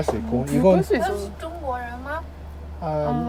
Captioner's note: Mandarin